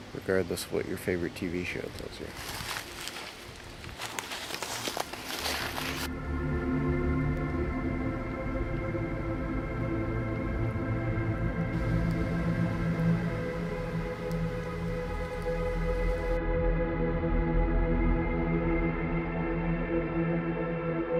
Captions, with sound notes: regardless of what your favorite TV show tells you. (leaves crunching) (soft ominous music) (soft ominous music continues)